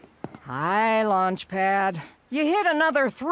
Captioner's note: footsteps; frustrated